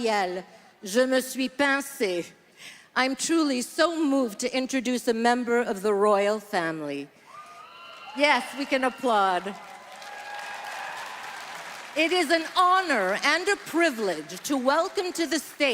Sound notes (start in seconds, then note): 5.2 speaking French; 14.2 applause